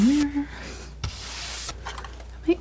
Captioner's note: scratching